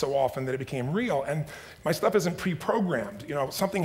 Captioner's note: none